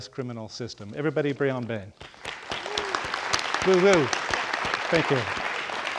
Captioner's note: audience applauding